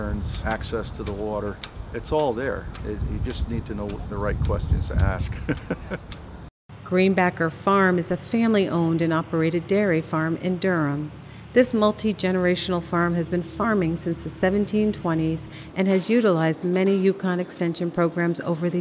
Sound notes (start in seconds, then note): 5.3 laughs